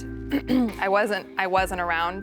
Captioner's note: clearing throat